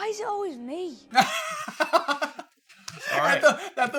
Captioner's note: laughter